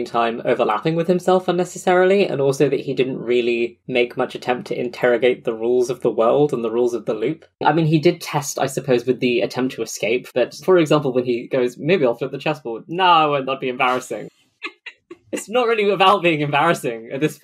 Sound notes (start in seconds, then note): 13.8 laughs